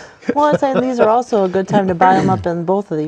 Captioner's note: laughter